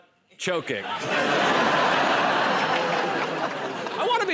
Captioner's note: laughter